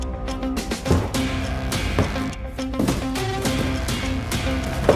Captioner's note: blows striking